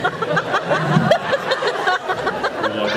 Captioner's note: laughs